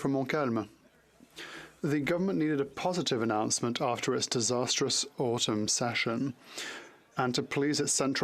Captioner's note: speaking French